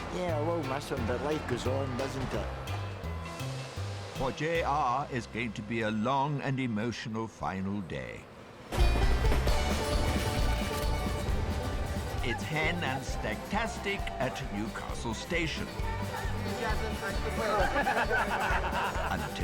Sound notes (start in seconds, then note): 8.9 train tracks clacking; 8.9 upbeat music; 17.7 stag group laughing